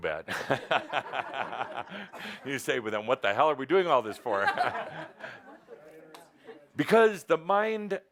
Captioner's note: laughter